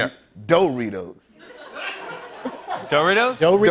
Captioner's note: laughter